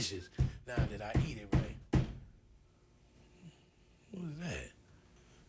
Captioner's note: knock on door